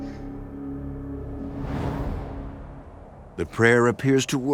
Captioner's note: swooshing